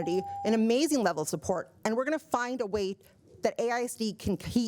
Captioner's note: buzzer